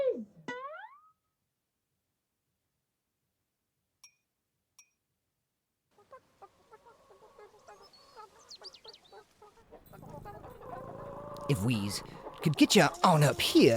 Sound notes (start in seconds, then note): 0.0 high pitched sproinging; 4.0 high pitched plinking; 5.9 chickens clucking; 6.0 birds chirping; 9.8 cat purring; 10.0 all animals chattering